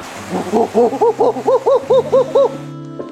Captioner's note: makes monkey noises